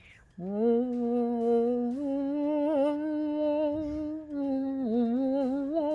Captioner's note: spider hums